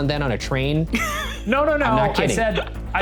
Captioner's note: laughing